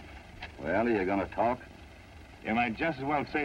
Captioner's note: none